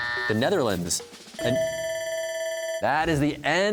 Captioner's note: bell ringing; buzzer